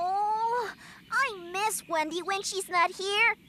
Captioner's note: none